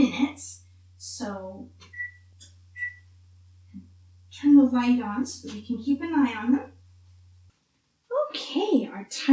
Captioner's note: beeps